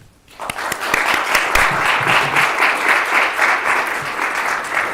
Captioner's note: applause